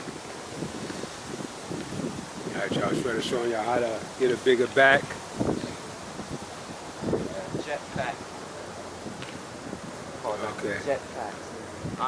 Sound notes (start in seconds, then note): 0.0 hand scraping; 0.3 leaves rustling; 6.0 leaves rustling